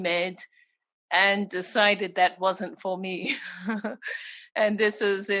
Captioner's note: laughs